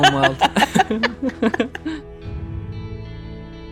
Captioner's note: both laugh; soft music